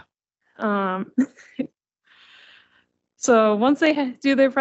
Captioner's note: chuckling